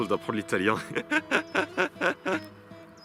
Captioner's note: laughs